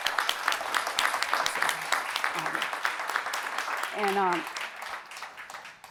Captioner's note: applause